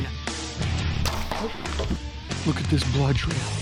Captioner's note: bow and arrow shooting